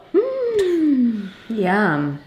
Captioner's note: gasps